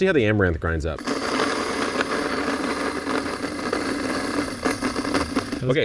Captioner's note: amaranth grinding